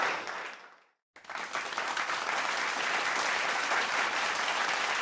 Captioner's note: applause